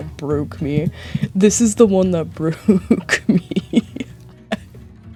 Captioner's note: sob